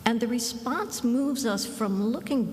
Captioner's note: none